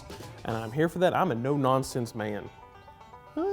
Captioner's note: hums